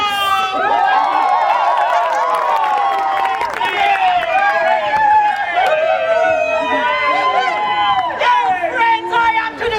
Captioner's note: cheering